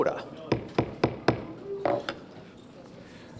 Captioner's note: gavel bangs